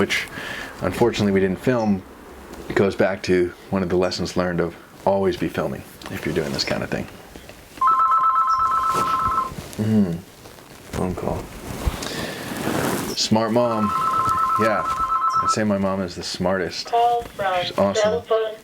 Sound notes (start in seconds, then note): 7.8 telephone ringing